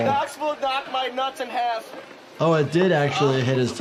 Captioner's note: none